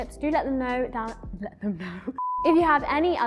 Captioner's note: laughs